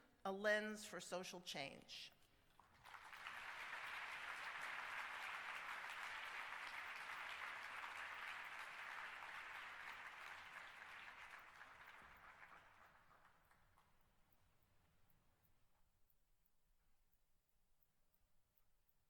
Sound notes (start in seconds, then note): 2.3 applause